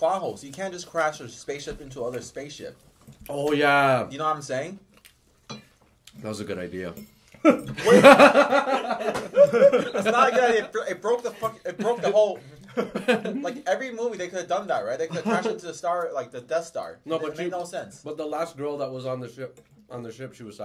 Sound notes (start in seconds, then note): 7.4 laughing